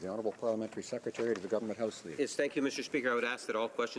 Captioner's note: speaking french